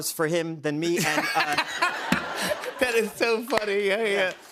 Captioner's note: laughter